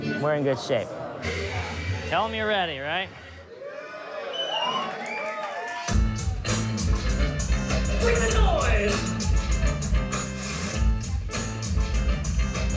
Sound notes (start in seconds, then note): 4.2 crowd applauding; 9.7 electronic music